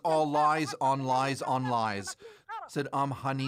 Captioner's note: speaking alternate language